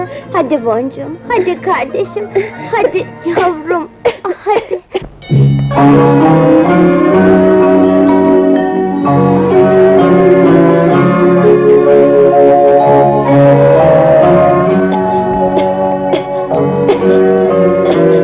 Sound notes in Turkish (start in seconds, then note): 2.1 Öksürükler; 5.7 Fonda duygusal film müziği; 16.1 Öksürükler